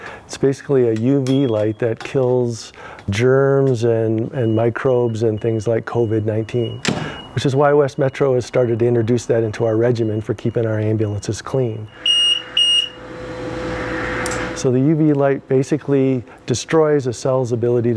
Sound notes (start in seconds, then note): 12.0 beeping